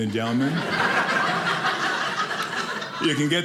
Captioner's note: audience laughing